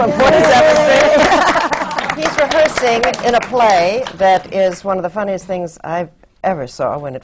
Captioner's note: applause